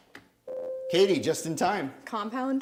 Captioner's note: ding